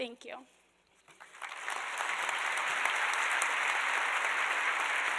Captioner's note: applause